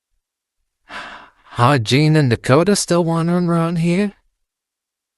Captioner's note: sighs